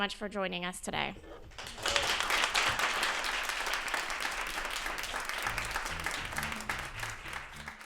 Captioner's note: applause